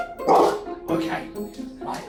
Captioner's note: Brandi barks